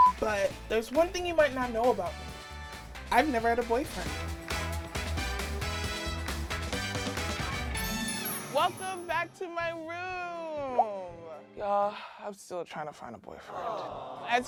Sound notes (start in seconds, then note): 5.1 upbeat music; 7.8 chimes